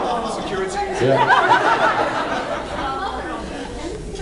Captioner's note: laughs